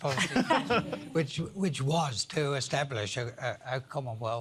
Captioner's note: laughter